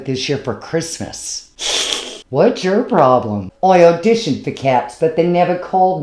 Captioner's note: cat hiss